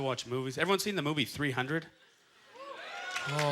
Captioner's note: scattered applause